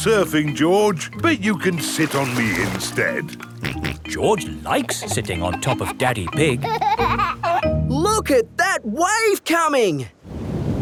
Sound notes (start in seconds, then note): 3.8 snorts; 7.1 giggling